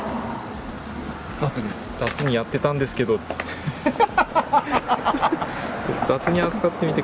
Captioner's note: laughs